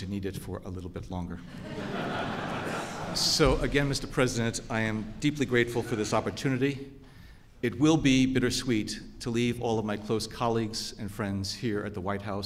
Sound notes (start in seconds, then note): 1.4 laughter